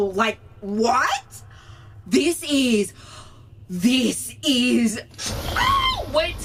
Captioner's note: hyperventilating